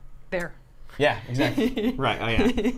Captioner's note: Safiya laughs